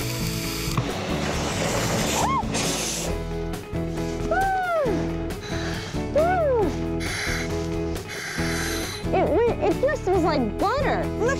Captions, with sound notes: (sighs) - It just feels like butter.